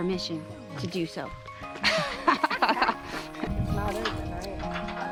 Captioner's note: laughter